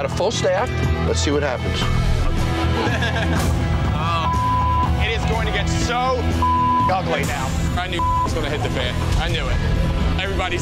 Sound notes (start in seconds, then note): 2.7 laughing; 4.2 beep; 6.4 beep